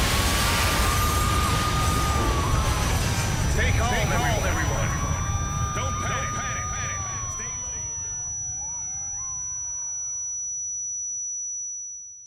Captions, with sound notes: [glass shattering, people scream] [echoing] - Stay calm, everyone. [high-pitched ringing] Don't panic! Stay... [high-pitched ringing continues]